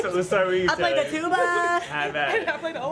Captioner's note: laughter